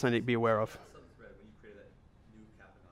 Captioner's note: voiceover